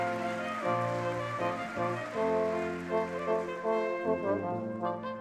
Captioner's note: audience clapping